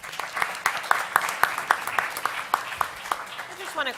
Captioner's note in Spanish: Aplausos